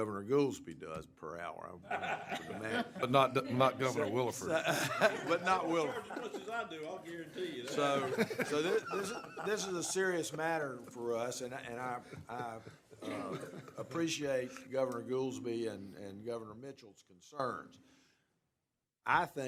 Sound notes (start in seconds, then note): 3.6 laughter; 10.1 off microphone